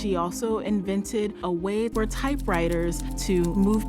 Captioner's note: typewriter keys clacking